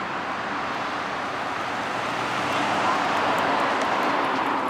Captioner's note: cars whooshing